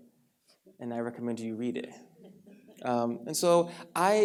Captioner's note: audience laughs